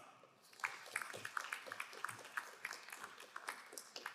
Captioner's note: crowd applauding